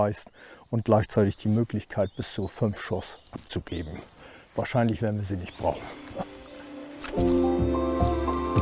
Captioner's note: laughs